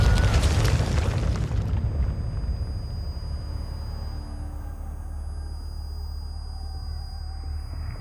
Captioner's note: explosion blasting, screaming; indistinct shouting; high-pitched whining